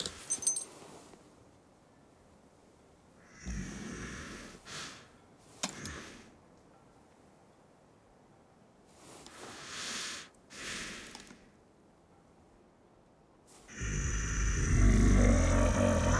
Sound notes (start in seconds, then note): 9.2 exhales; 10.4 inhales; 13.7 growls